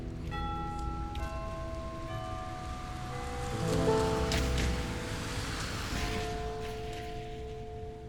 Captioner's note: church bells ring